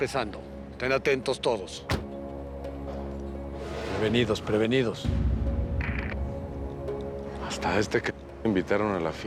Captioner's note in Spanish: portazo